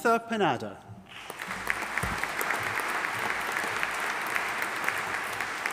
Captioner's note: audience applauding